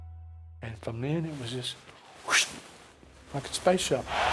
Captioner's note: whooshes